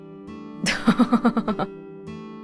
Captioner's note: chuckles